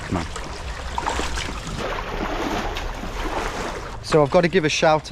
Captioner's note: water splashing